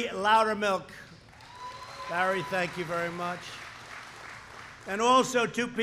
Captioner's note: applause